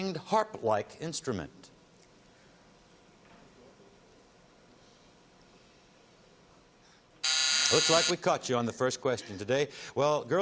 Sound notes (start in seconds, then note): 7.2 buzzing